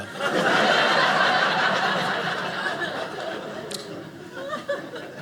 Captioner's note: audience laughing